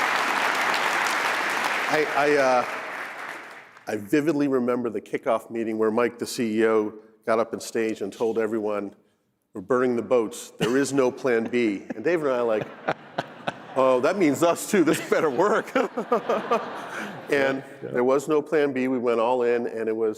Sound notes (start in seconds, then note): 4.1 applause